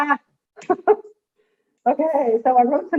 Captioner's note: laughing